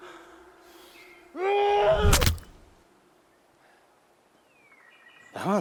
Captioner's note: Ander shouting